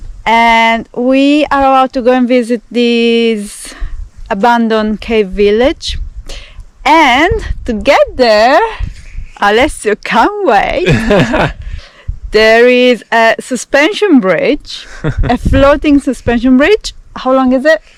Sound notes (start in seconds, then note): 10.8 laughs